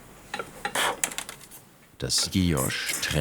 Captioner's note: blowing